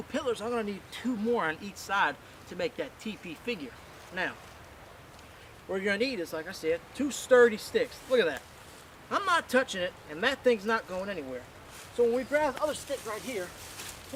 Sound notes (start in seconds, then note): none